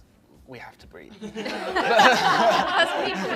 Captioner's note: laughter